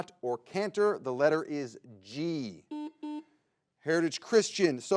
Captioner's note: button blips